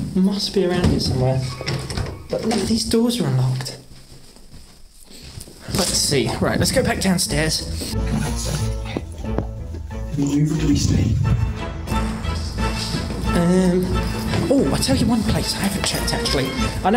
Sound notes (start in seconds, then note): 9.0 whispering; 11.4 music crescendos